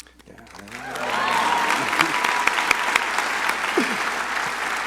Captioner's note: crowd applauding